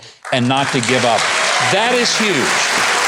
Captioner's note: audience clapping